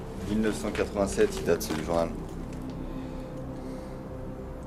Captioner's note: speaks French